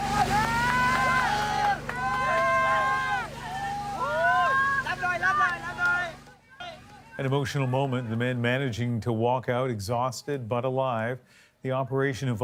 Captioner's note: applause